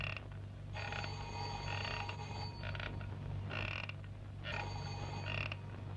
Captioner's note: phone ringing